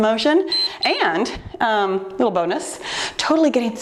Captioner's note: timer beeps